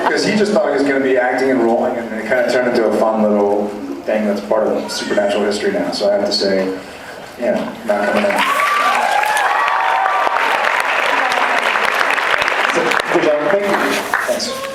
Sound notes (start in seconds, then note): 8.1 cheers, applauds; 12.1 applauds